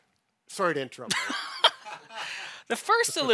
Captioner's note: everyone laughs